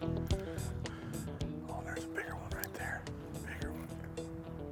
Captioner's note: whispering